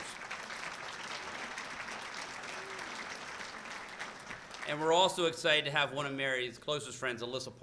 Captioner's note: applause